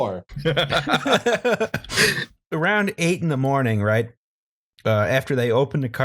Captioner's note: laughter